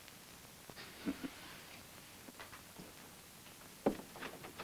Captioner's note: Bob chuckles